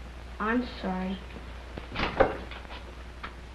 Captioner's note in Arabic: طرق